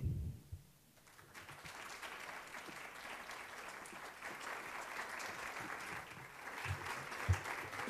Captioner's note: applause